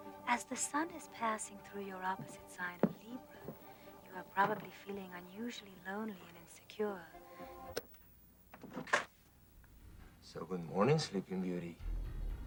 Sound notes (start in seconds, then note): 7.7 radio muting